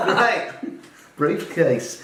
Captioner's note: laughing